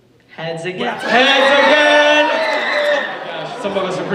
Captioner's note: audience cheers